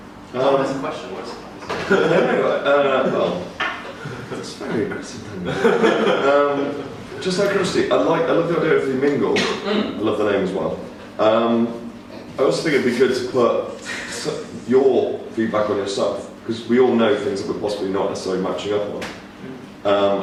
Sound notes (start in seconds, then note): 3.7 laughs; 5.3 group laughing